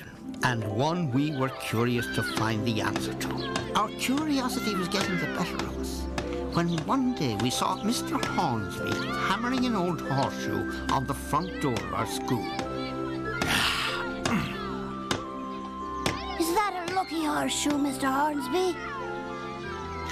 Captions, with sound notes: AND ONE WE WERE CURIOUS TO FIND THE ANSWER TO. OUR CURIOSITY WAS GETTING THE BETTER OF US, WHEN ONE DAY WE SAW MR. HORNSBY HAMMERING AN OLD HORSESHOE ON THE FRONT DOOR OF OUR SCHOOL. [SIGHS] IS THAT A LUCKY HORSESHOE, MR. HORNSBY?